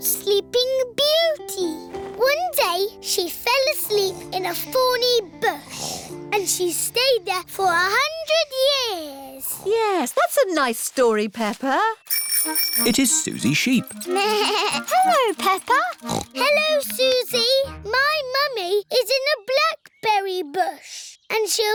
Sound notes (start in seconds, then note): 9.3 snoring; 12.0 bell ringing; 14.4 bleats; 16.4 snorts